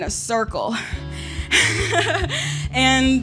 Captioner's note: laughs